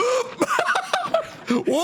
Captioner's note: TANGO laughs